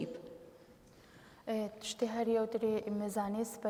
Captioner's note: speaking kurdish